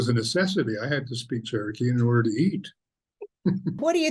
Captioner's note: chuckles